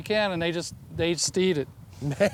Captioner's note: laughs